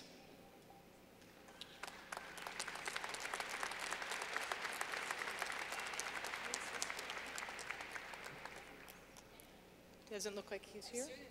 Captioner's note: clapping